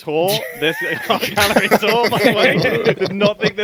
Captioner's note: group laughs